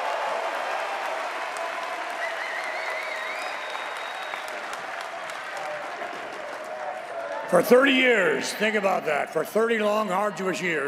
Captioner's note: cheers and applause